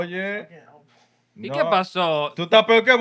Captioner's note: speaking Spanish